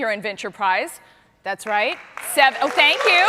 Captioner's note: cheers and applause